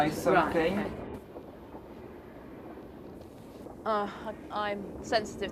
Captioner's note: train noise